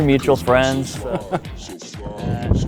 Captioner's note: laughs